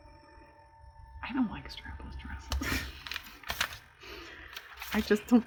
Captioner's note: laughs